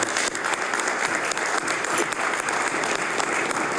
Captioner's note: applause